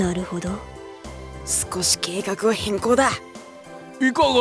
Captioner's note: whisper